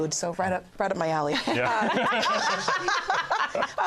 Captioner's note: laughter